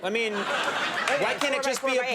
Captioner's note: audience laughing